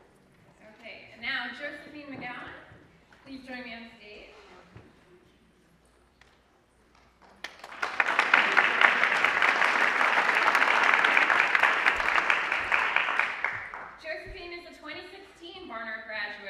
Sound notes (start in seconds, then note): 7.0 applause